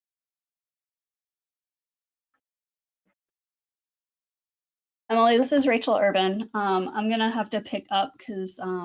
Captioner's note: silence